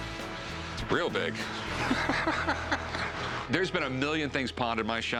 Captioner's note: laughs